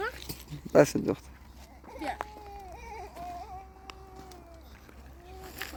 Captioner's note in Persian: گریان